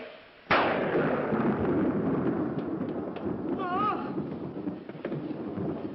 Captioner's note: thunder